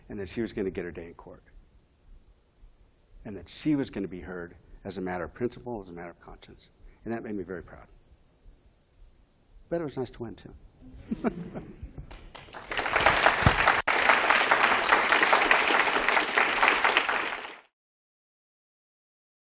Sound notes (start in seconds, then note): 12.0 applause